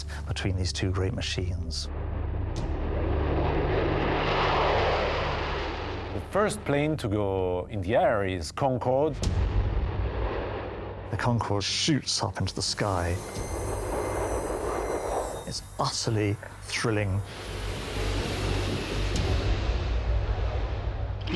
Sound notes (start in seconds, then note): 2.5 jet engine roaring; 13.8 aeroplane whooshing; 17.0 tense booming music